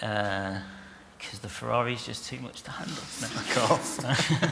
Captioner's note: laughter